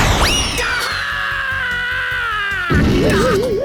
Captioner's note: pained cry